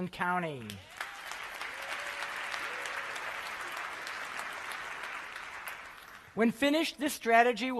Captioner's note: applause